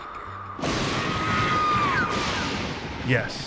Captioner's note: thunder crash